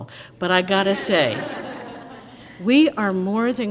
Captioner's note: crowd laughs